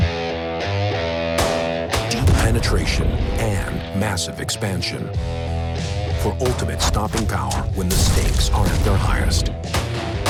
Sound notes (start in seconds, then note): 0.2 rock music; 1.4 gun shot; 2.6 voiceover